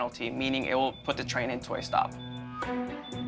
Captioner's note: beeping